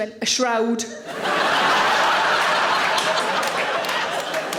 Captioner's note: audience laughing